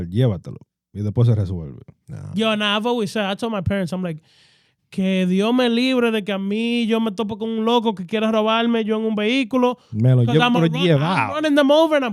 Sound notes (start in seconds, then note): 4.9 speaking In Foreign Language